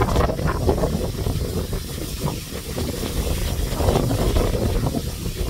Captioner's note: wind sound